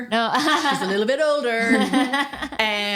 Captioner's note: laughs